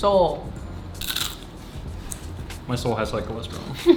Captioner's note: crunching